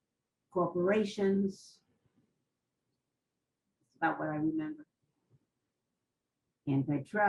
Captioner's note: pauses for 3 seconds